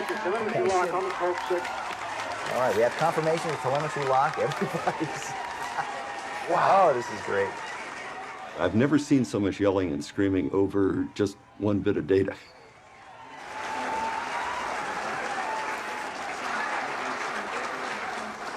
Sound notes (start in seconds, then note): 3.8 crowd cheering; 17.9 crowd cheering